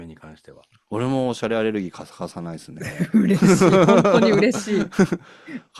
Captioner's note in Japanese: 笑い